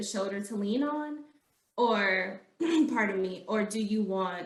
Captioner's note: clearing throat